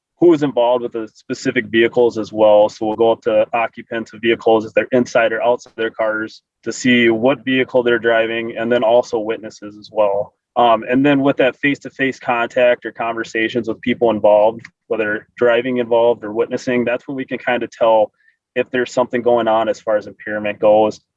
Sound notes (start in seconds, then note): none